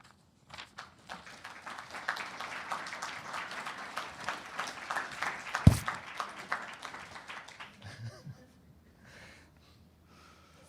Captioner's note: audience applauding